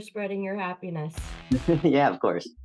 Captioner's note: chuckling